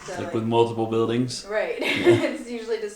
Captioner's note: chuckling